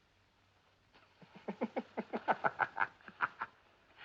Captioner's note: Risos